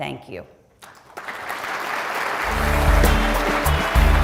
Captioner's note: audience applauding; upbeat music